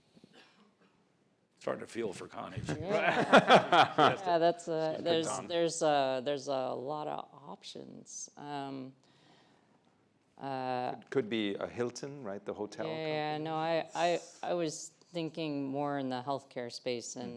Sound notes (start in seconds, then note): 2.7 laughs